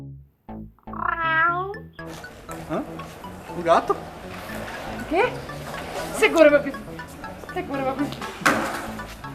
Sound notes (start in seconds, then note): 1.2 meows in Portuguese